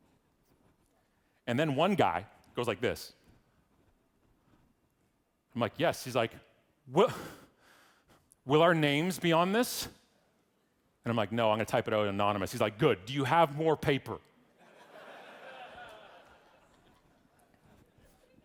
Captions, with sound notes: And then one guy goes like this. I'm like, yes? He's like, will our names on this? And I'm like, no, I'm gonna type it out anonymous. He's like, good. Do you have more paper? (audience laughing)